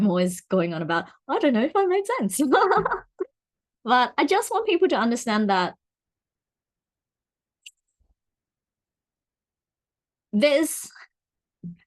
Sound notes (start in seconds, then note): 7.6 long pause